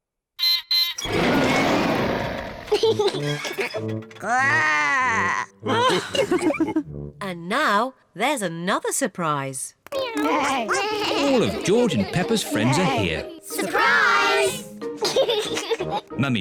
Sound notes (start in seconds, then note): 0.3 beeps and roars; 2.6 laughs; 4.1 growls; 5.6 all laugh; 10.0 all making animal sounds; 15.0 laughs